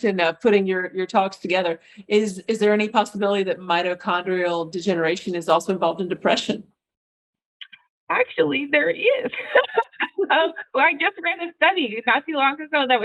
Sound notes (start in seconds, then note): 9.2 laughs